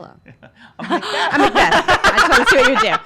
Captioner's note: laughing